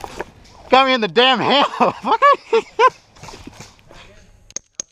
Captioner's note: laughs